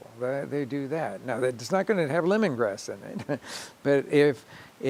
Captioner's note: chuckling